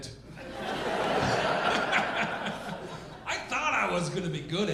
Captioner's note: audience laughing